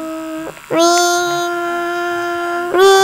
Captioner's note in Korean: 위잉